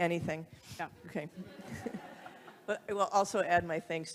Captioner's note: audience laughing